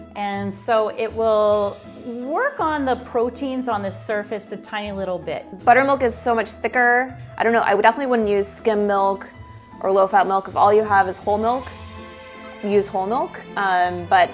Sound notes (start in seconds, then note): none